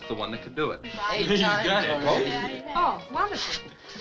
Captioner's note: all chattering